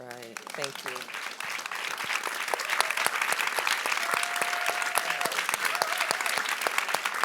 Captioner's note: audience applauds